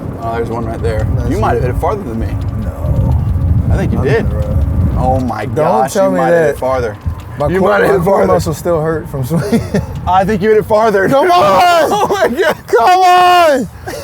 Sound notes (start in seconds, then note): 9.2 laughs